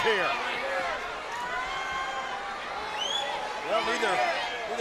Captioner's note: crowd clamors